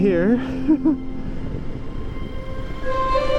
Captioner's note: laughs